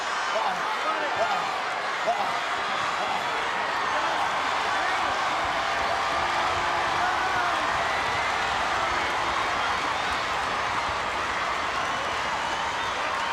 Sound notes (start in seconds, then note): 0.9 audience chattering